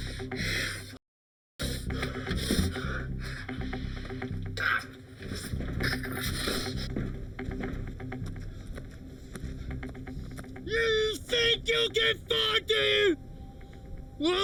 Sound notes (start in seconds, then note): 5.2 Eric groans